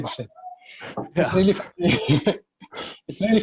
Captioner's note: laughs